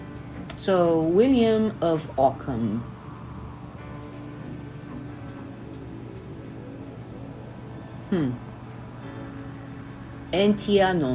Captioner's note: Latin